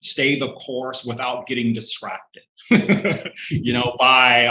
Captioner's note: laughing